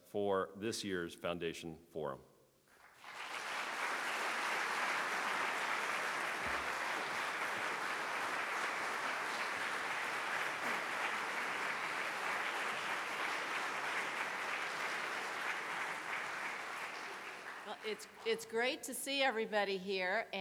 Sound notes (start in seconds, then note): 2.7 clapping